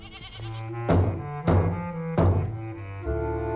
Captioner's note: banging on door